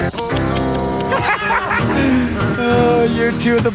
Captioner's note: men laughing